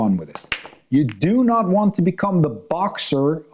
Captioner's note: pool balls clanking